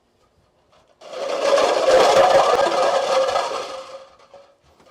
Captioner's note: clattering